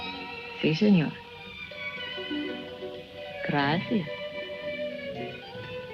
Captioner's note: woman speaking in foreign language